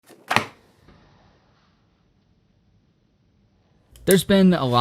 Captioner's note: folder smacks on desk